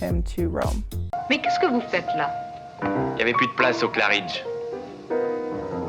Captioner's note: both speaking in French